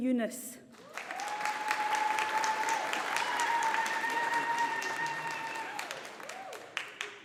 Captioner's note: audience applauding